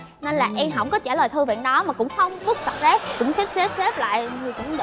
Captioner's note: laughing